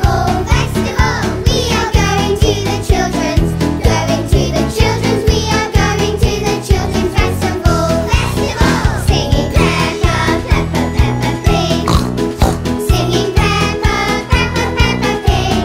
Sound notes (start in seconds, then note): 8.6 singing; 11.7 oink; 12.6 singing